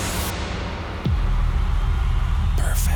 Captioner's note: audience cheers